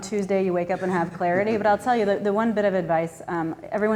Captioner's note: laughing